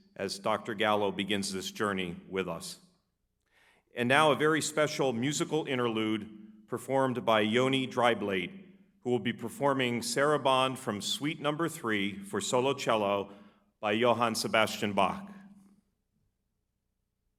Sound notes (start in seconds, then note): none